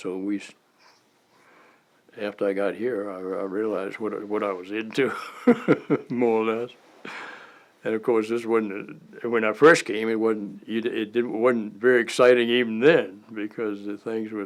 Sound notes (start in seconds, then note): 7.0 chuckle